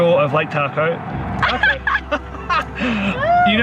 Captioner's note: laughs